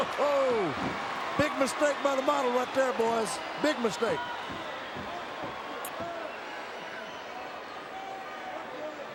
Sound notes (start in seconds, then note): 4.9 crowd cheering